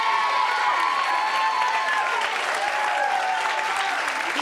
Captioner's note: audience cheers